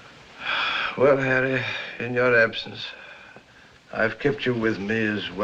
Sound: sighs

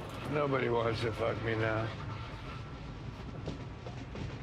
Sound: none

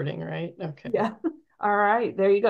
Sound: chuckles

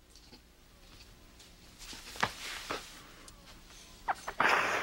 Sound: Will sniffles

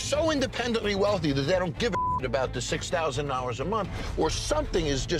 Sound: beep

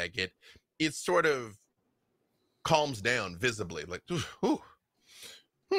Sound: exhales

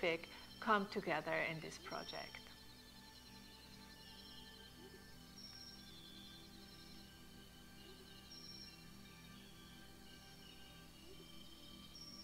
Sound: birds chirping

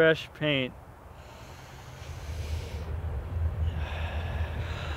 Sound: breathing in

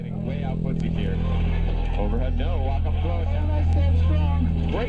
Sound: game sounds

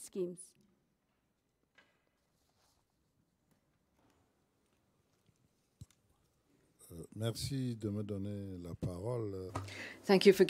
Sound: silence

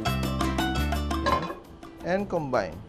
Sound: clang

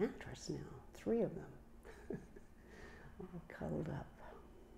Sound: chuckles

